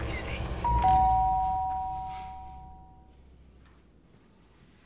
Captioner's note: doorbell rings